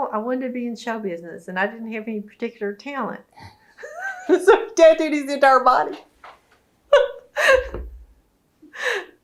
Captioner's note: laughs